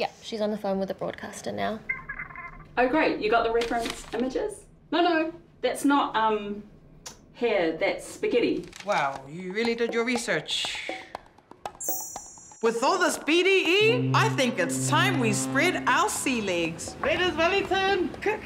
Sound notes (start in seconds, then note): 1.9 muffled voice from phone; 11.8 glasses tinkle